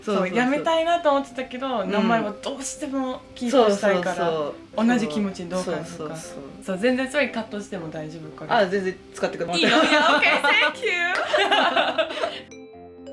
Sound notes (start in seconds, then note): 9.5 laughs